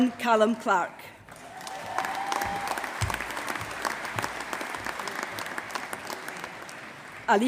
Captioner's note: applause